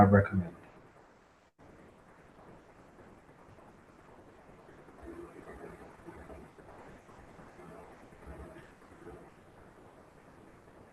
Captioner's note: pause